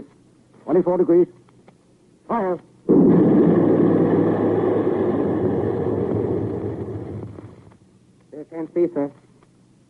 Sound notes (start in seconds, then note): 2.9 heavy gunfire